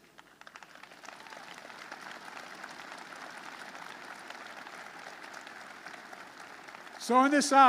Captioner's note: applause